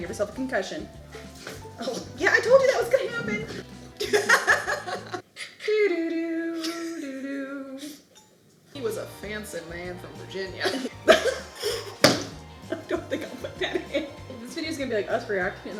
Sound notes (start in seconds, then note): 3.8 laughing; 11.8 slaps table